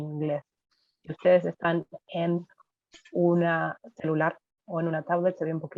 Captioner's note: woman continues speaking Spanish